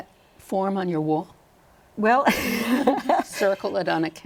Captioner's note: laughter